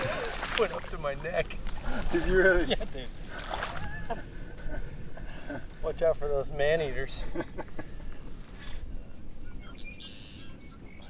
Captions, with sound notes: - It went up to my neck. (laughing) - Watch out for those man eaters.